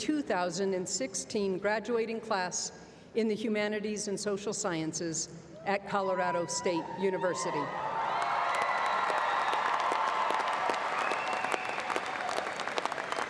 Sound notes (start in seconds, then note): 10.6 applause